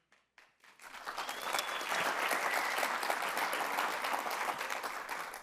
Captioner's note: audience applauds